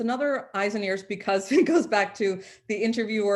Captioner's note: chuckles